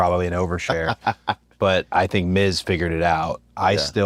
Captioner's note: laugh